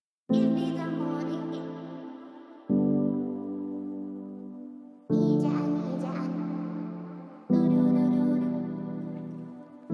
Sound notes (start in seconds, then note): 0.2 girls voice talking; 1.3 piano intro music; 5.2 girls voice talking; 7.1 piano intro music